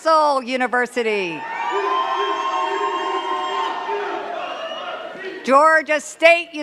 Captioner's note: cheers and claps